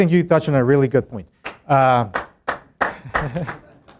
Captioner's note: clapping